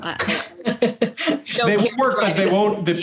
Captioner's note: laughs